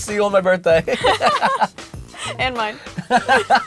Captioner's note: laughs